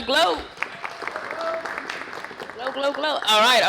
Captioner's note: applause